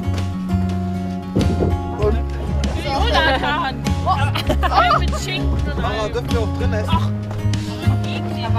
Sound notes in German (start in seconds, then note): 1.6 reden durcheinander und lachen